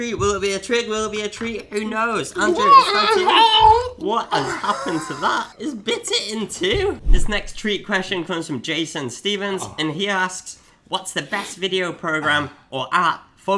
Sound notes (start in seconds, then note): 2.3 gargling; 4.2 laughing